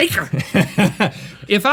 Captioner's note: laughs